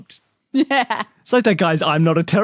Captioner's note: laughs